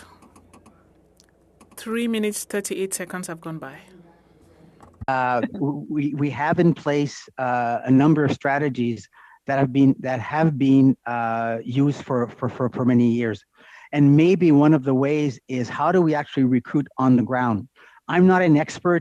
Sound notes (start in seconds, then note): 3.8 speaking French